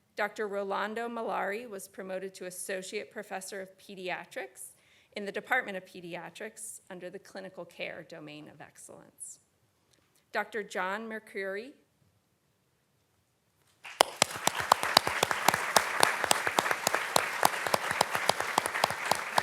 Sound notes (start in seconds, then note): 13.8 audience clapping